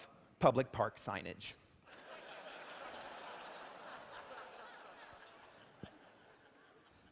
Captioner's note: laughter